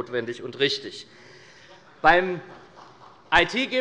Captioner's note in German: Beifall bei Abgeordneten der SPD